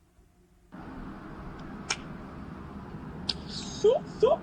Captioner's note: noisy city